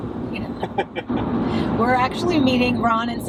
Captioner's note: laughing